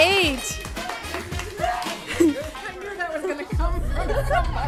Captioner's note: cheering